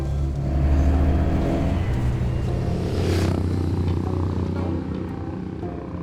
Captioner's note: engine rumbling; gentle music